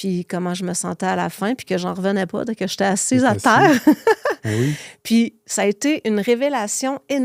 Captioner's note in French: rires